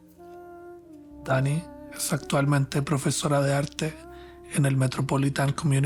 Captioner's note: narrator speaking Spanish